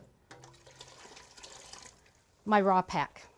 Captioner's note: water pouring